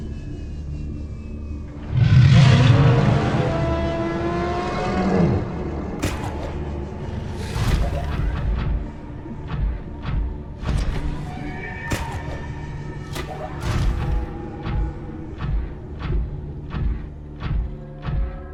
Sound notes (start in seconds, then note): 2.1 monster roaring; 6.0 rope dart gun blasting; 13.1 rope dart gun blasting; 13.7 footsteps crunching